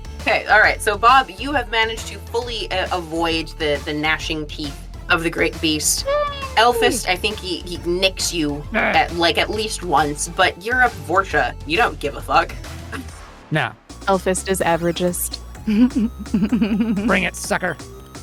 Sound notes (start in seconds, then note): 8.7 ELFEST groans; 15.6 LEA chuckles